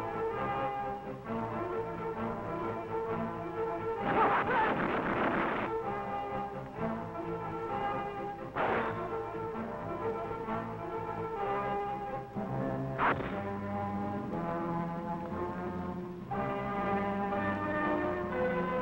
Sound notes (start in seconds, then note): 4.0 men groaning; 4.2 guns firing